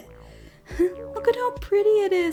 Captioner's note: giggles